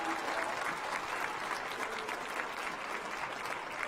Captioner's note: applause